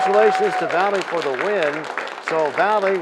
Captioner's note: cheers and applause